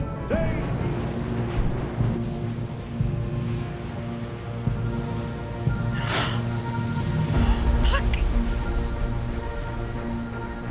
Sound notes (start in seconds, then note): 0.2 dramatic music; 4.7 rattlesnake rattling; 7.3 gasps